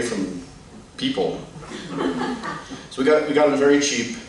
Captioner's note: laughter